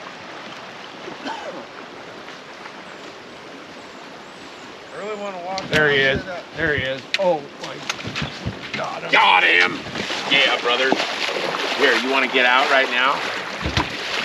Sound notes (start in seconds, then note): 4.6 rod whipping